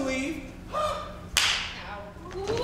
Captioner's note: hand smacks